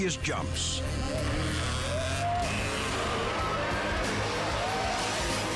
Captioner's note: motorcycle engine roaring